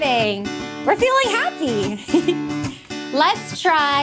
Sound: giggling

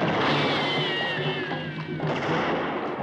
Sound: gunshot

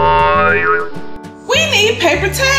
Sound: boing sound effect

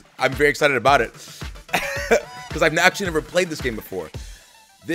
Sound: laugh

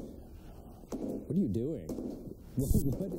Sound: banging

